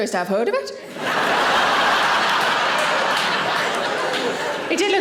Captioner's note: audience laughing